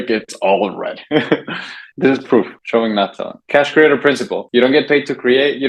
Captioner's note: laughs